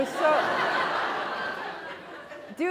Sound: laughter

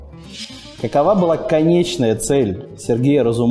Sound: voice-over

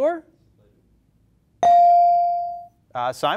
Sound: bell rings

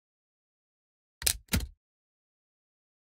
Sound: sound of typewriter

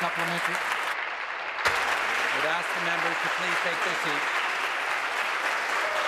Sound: applause

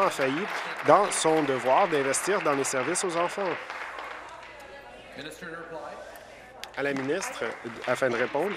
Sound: applause

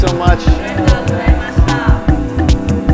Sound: all speaking in Japanese; upbeat music

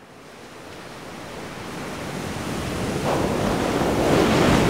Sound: waves whooshing

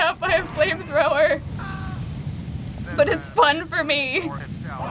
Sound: man screams

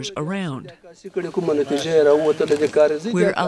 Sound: speaking foreign language

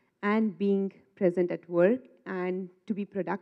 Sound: none

